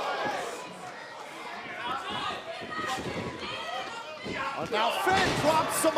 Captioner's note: crowd chatter